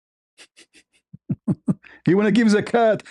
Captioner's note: ketawa